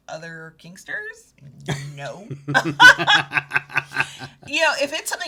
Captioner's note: both laughing